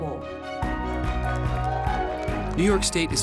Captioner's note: applause, cheering